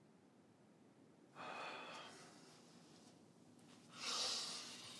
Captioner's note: Jimmy breathes deeply